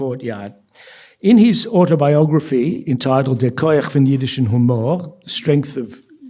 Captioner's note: speaking yiddish